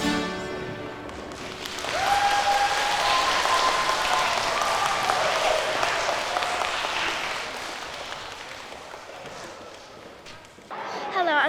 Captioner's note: applause